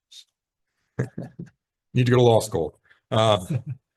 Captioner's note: chuckles